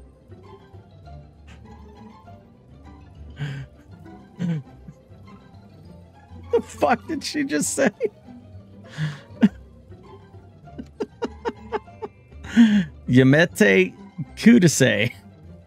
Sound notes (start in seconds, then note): 12.9 poorly spoken japanese